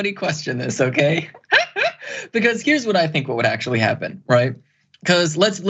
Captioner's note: laugh